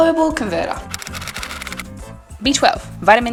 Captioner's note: typewriter style clicking